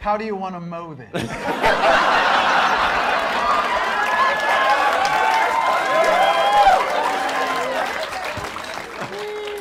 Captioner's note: laughter